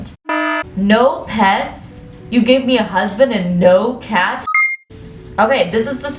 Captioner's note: data transfer sound effect